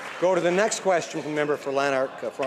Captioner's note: some Applause